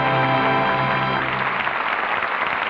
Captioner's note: applause